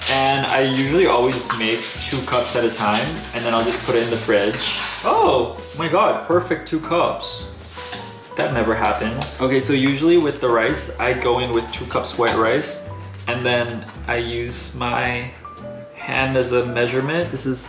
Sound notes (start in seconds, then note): 7.5 rice pours